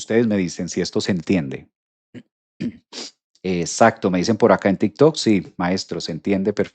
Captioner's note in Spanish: carraspeo; resoplido